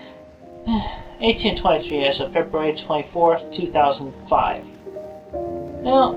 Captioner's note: sigh